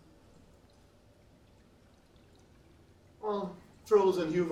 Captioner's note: water plinking